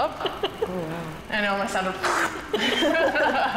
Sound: makes explosion sound; laughing

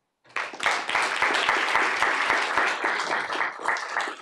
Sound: applause

